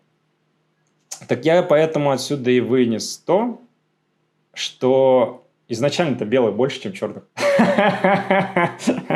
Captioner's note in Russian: смех